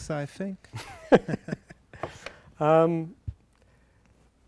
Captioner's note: laughing